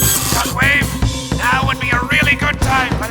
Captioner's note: starscream on comms